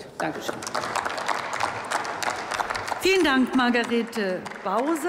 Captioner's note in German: Applaus